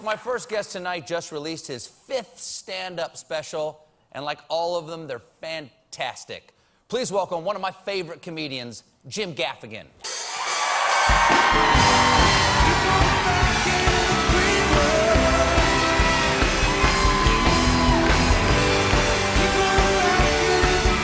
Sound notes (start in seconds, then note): 12.4 cheers and applause